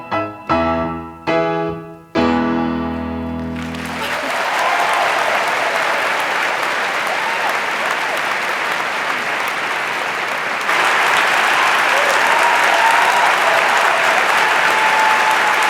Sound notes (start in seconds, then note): 3.4 applause